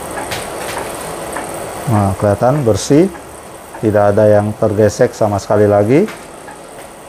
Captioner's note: printer machine noise